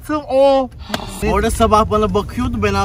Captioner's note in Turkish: iç çeker